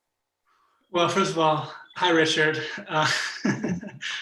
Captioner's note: laughs